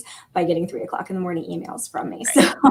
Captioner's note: laughter